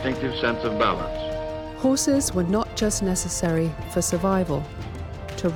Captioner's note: voiceover